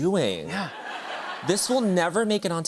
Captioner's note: laughter